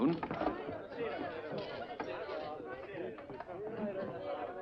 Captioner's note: all chattering